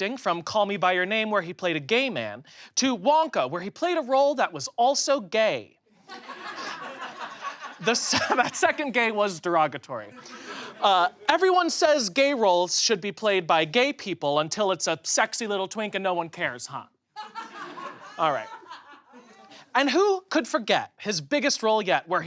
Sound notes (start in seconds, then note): 6.0 audience laughs; 17.2 audience laughs